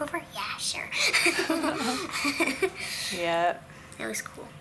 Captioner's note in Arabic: يضحك